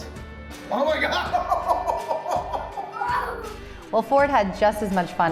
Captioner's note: laughs